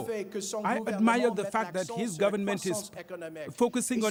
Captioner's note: speaking French